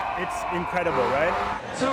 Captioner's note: crowd Cheering